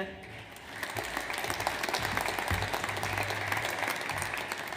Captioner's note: audience applauds